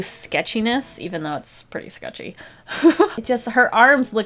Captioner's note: laughs